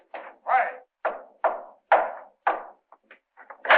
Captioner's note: knocking on door